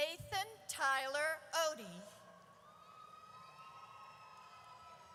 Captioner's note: audience cheers